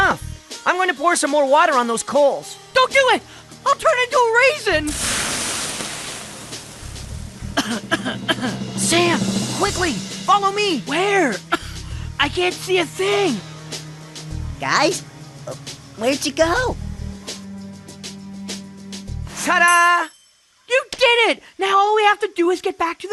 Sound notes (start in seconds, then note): 7.5 coughing